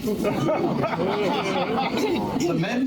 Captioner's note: laughter